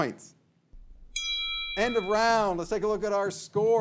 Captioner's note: bell rings